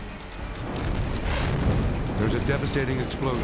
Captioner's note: explosion rumbles